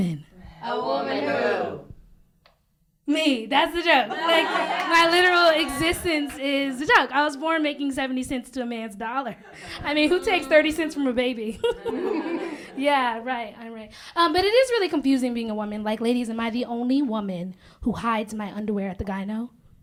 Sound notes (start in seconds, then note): 4.0 laughter; 11.6 chuckles